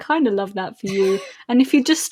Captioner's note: laughs